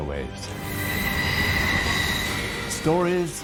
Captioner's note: train screeching